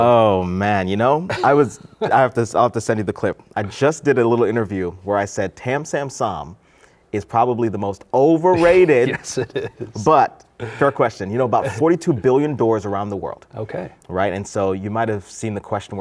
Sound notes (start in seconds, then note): 8.6 laughs